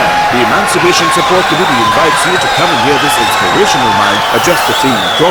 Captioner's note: wild applause and cheering for 22 seconds